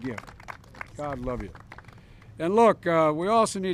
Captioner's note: applause